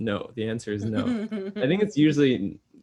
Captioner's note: laughs